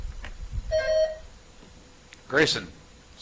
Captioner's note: buzzer chimes